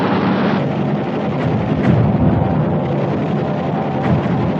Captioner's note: booming